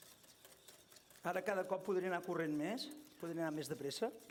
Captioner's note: non-english speech